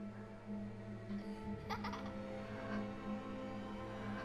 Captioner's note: child's laugh